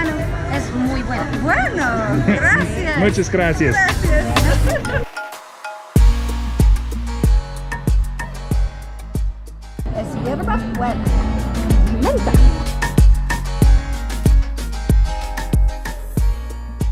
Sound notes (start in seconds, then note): 6.3 rhythmic electronic music; 10.3 speaking foreign language; 13.0 rhythmic music